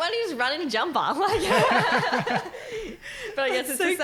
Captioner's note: laughing